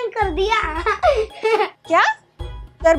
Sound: laughing

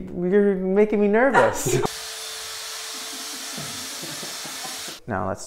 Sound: laughing; drill buzzing

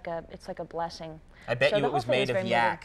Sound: laughs

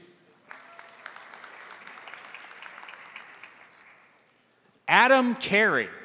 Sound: crowd applauding; crowd cheering

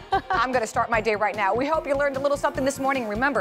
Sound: laughter

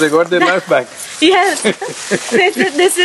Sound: Sadhguru laughs

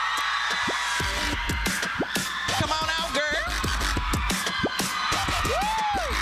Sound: applause

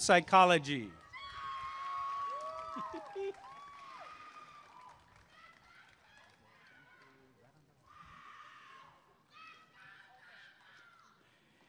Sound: applause and cheering

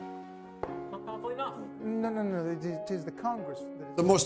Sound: bantering

